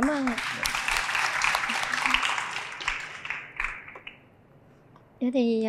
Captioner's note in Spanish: Aplaudir